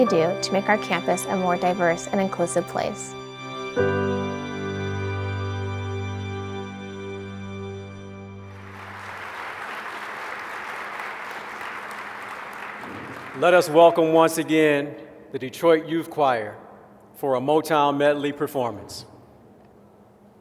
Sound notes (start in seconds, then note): 8.5 applause